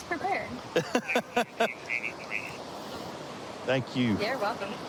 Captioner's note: laughing